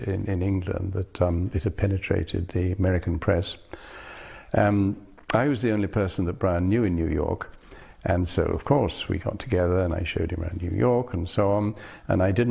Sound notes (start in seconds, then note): none